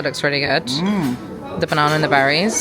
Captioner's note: grunting